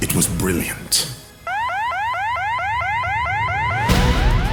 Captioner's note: siren; intense music